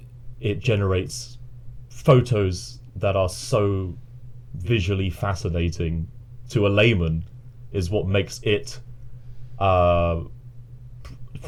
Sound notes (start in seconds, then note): none